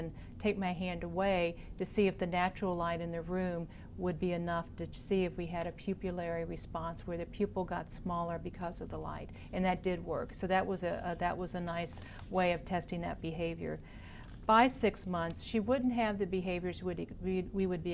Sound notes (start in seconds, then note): none